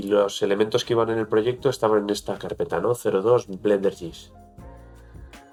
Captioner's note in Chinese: 英语